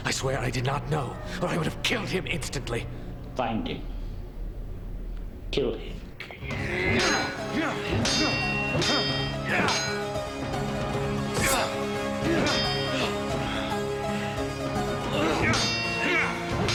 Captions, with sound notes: I swear I did not know, for I would have killed him instantly. - Find him. Kill him. (metal clanging) (grunting) (dramatic orchestral music)